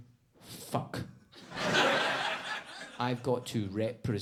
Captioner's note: audience laughs